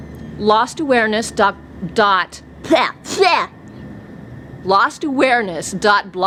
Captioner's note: spitting